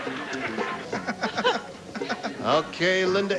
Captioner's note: laughing